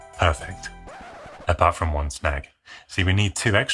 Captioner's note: vinyl LP scratching